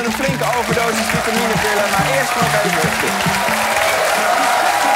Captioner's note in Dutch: applaus